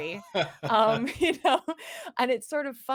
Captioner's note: both laugh